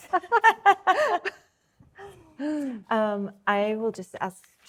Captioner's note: laughing